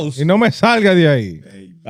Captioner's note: speaking In Foreign Language